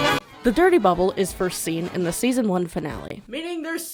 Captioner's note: shouting from further away